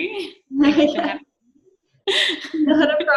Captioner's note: chuckling